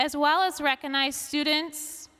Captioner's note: none